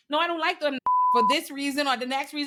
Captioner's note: beep